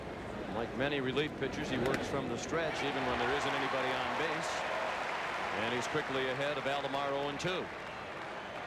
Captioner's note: applause